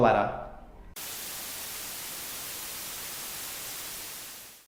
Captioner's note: electricity buzzing